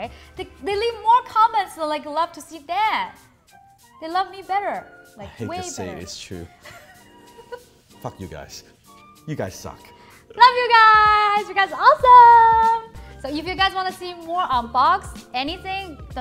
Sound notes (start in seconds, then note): 5.2 laughing